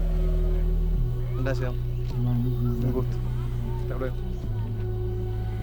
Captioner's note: speaking Spanish